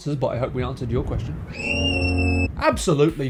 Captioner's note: Little Girl screaming in horror at Sonic's lifeless eyes